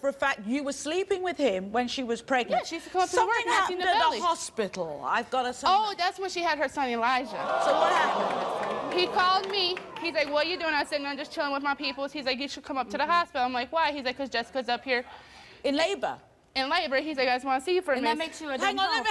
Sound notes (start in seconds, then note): 7.3 audience groans